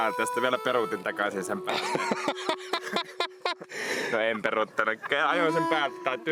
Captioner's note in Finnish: naurua